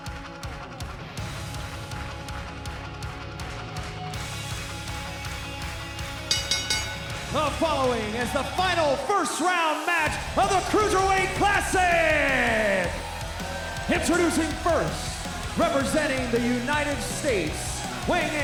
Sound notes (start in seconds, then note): 6.2 bell ringing